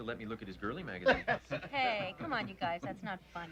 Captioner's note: men laughing